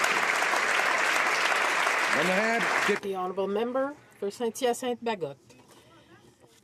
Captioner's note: some Applause